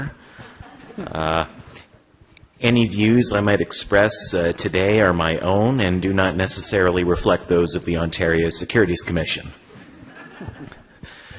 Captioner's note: laughter